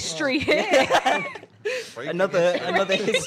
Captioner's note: laughing